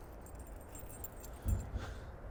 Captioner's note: dog collar jingles